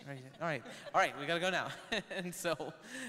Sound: laughs

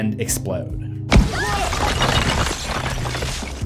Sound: screams and Explosions

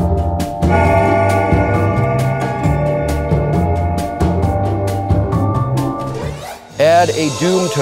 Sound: clock chimes

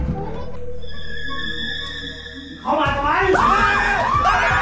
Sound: screaming continues

